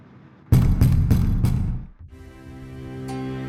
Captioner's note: door pounding